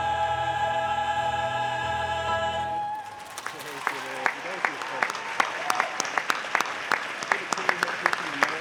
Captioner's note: applause